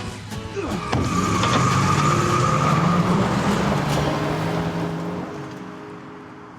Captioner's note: dramatic music; car tires squealing; Isaac grunts; car engine rumbling